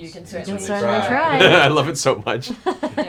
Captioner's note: laughs